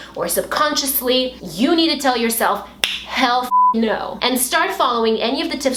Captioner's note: snap fingers